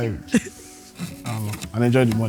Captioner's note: laughs